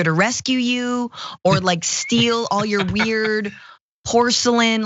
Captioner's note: laugh